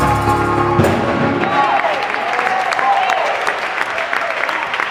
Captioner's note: applauding